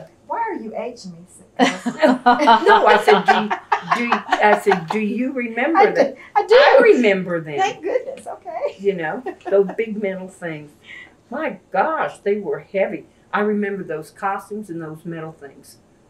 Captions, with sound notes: Why are you aging me, cousin? (Laughter) No, I said, “Do you remember?” I do! I remember them. Thank goodness! Okay. (Laughs) Those big, metal things. My gosh! They were heavy! I remember those costumes and those metal things,